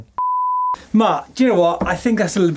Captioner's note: beeping